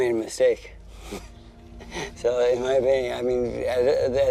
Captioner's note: chuckles